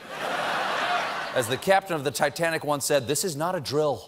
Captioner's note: laughter